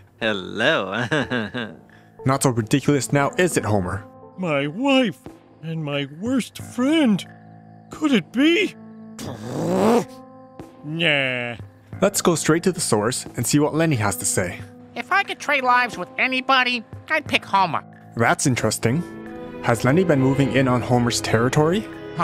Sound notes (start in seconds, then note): 9.2 growl